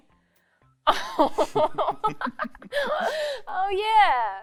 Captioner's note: giggles